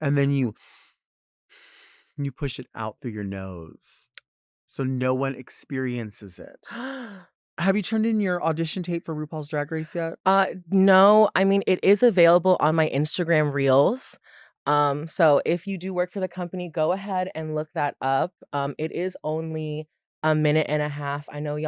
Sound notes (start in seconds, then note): 7.4 she gasps